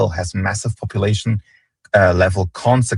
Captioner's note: none